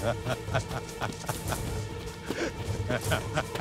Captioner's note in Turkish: Arıkbuka gülüyor